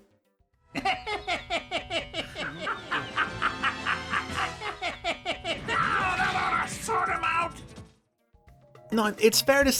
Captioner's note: laughing